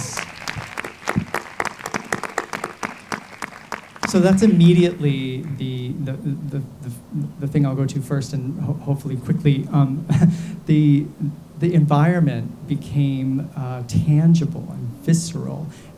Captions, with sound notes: (audience claps) So that's immediately the thing I would go to first, and hopefully quickly, (chuckles) the environment became tangible, and visceral,